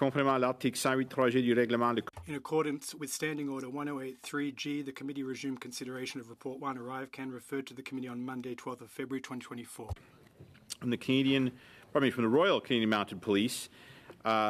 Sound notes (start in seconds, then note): 6.2 speaking French